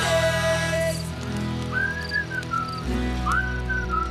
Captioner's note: whistling